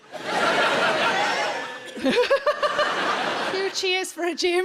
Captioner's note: audience cheers